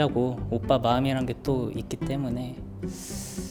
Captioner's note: sigh